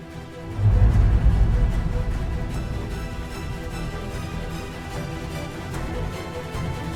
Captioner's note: dramatic music; transition whooshing